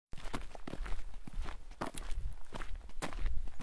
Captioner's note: feet trampling